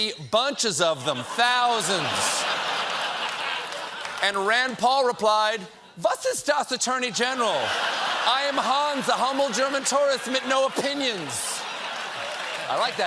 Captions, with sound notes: BUNCHES OF THEM, THOUSANDS." ( LAUGHTER ) AND RAND PAUL REPLIED "WAS IST DAS ATTORNEY GENERAL? I AM HANS, A HUMBLE GERMAN TOURIST MIT NO OPINIONS."